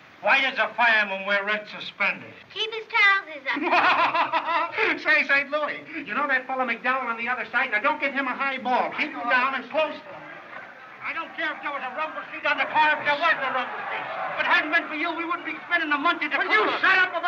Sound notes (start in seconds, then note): 3.5 laughing